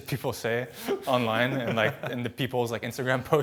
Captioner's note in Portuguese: risos